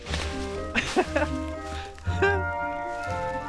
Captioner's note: more laughing about nothing